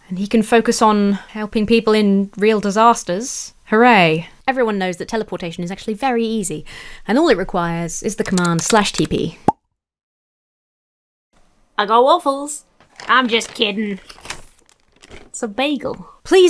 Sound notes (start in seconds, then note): 8.2 keyboard clatters